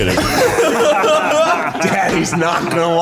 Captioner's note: guys laughing